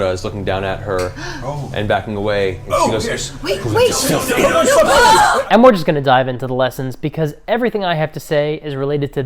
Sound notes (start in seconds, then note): 1.5 gasps; 3.5 screams